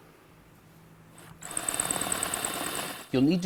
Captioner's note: drilling